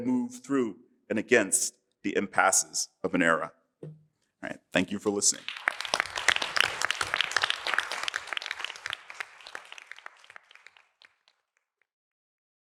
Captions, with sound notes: move through and against the impasses of an era. Thank you for listening. [APPLAUSE]